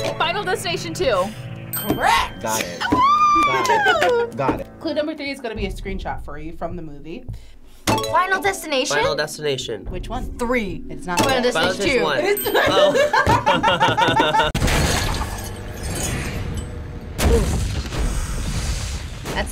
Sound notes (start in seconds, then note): 1.7 bell dings; 2.8 girl yells; 8.2 bell dings; 12.2 bell rings; 14.6 metal breaking and logs falling to ground